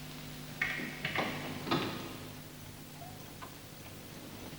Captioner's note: none